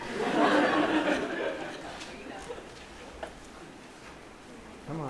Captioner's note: laughter